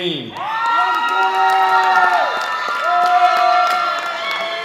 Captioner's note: loud audience cheering